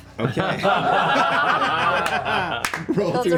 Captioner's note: laughter